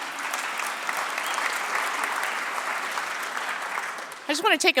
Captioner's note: applause